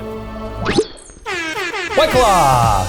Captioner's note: air horn